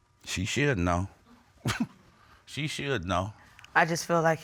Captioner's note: chuckles